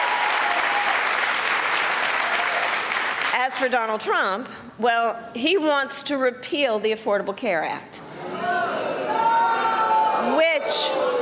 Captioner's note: cheers and applause